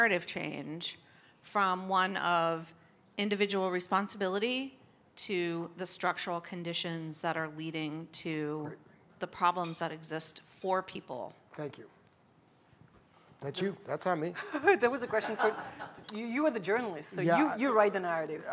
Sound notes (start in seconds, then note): 16.8 laughter